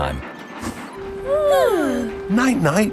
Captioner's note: both yawning